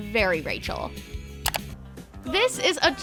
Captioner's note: clicking